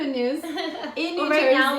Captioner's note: laughing